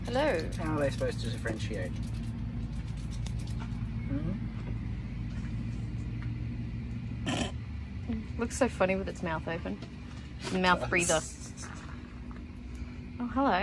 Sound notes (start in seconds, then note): 7.3 snort laughs; 11.7 laughs